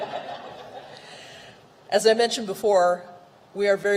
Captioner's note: laughter